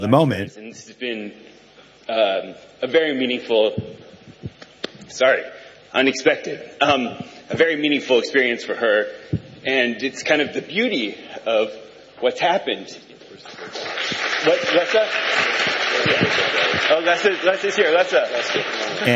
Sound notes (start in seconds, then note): 13.4 applause